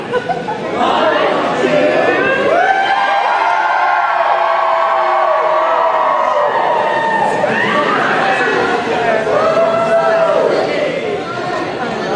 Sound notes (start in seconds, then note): 2.5 cheering